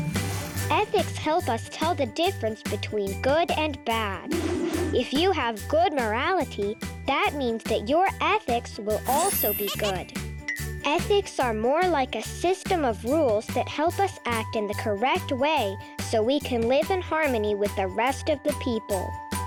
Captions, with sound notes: Ethics help us tell the difference between good and bad. (air whooshing) If you have good morality, that means that your ethics will also be good. (planet laughing and clinking) Ethics are more like a system of rules that help us act in the correct way so we can live in harmony with the rest of the people.